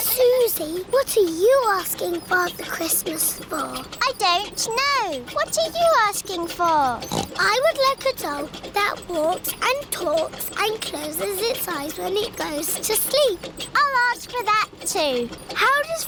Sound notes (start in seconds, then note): 7.4 snorts